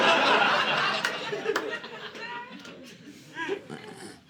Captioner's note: audience laughing